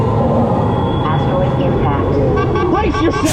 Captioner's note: beeps